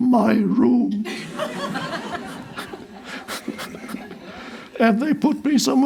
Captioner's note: crowd laughs